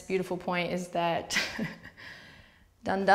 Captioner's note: laughs